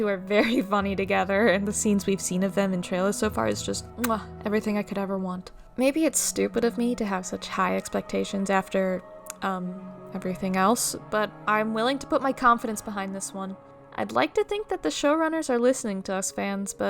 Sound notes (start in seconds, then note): 4.0 mwah